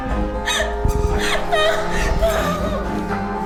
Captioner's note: sobbing